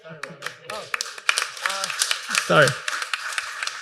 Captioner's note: applause